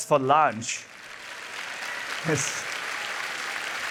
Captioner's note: applause